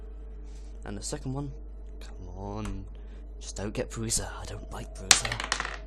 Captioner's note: mutters to self; rolls die